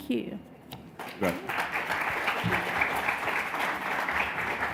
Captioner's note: audience applause